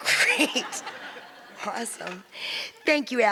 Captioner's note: audience laughs